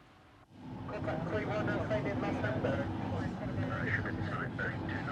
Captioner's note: people chattering